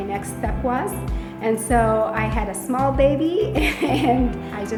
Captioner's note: chuckles